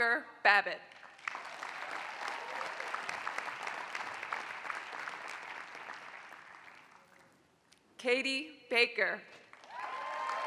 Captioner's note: applause; applause